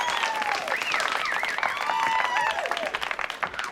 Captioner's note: whistling; applause, Cheering